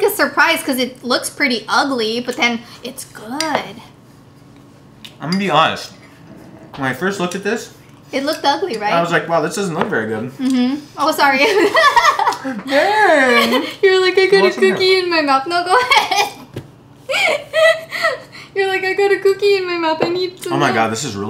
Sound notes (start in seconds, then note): 11.4 laughter